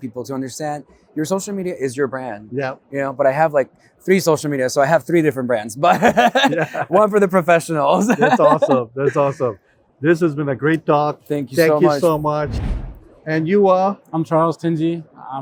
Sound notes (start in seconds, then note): 5.8 laughs; 12.2 transition whooshes